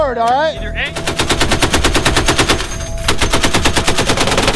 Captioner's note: weapons firing